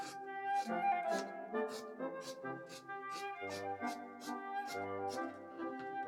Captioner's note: scissors snipping